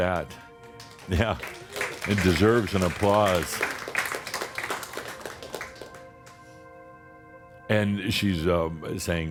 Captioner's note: audience applause